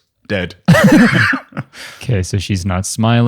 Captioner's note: laughs